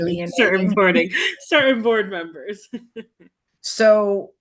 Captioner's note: laughs